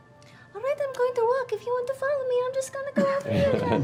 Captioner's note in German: piepsig